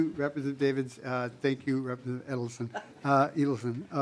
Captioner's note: laughing